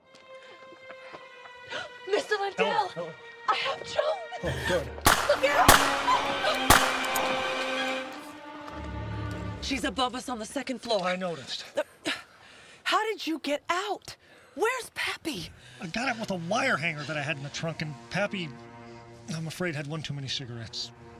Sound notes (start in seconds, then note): 0.2 gentle music; 1.9 gasps; 4.4 Eleanor gasps; 5.0 gunshots popping